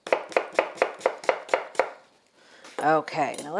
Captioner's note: knife tapping